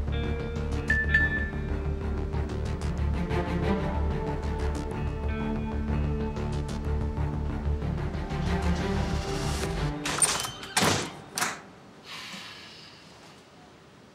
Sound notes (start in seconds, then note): 0.8 message tone; 10.0 door opens and closes; 11.2 tension music ends